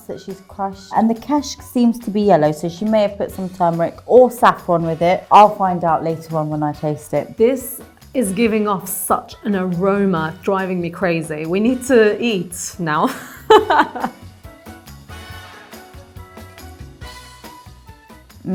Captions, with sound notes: that she's crushed, and the kashke seems to be yellow so she may have put some turmeric or saffron with it. I'll find out later on when I taste it. - This is giving off such an aroma, driving me crazy. We need to eat now (laughs). (upbeat instrumental music)